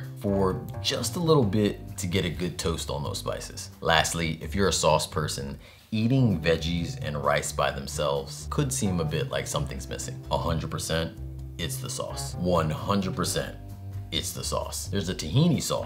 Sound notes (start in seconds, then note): none